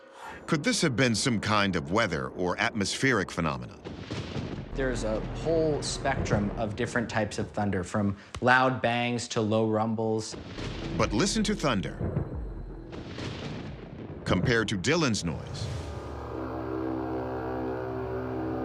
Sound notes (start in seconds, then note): 12.3 thunder rumbles; 15.8 horn-like sound